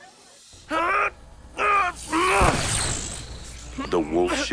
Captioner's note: magical buzzing; Brax groans